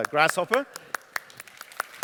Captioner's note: applause